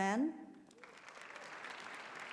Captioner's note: applause